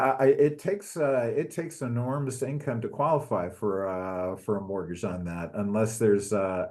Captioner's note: laugh